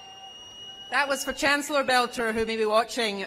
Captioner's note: cheers and applause